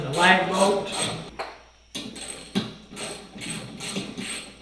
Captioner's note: wrench clicking